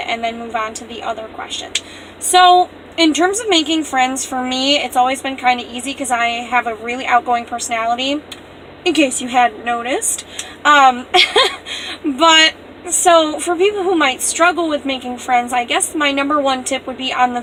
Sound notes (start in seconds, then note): 11.1 laughs